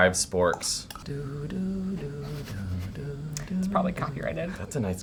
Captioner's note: humming